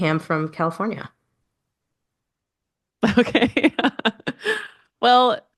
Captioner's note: laughs